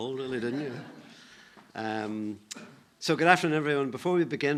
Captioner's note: audience laughing